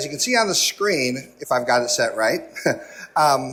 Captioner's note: laughs